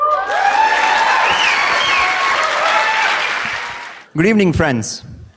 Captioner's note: applause